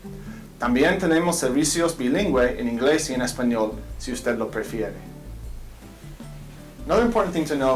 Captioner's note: speaking in Foreign Language